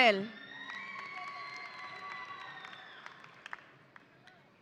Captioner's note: audience applauding